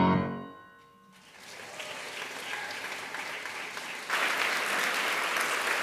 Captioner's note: audience applauding